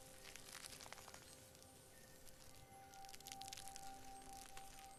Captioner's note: plants crackling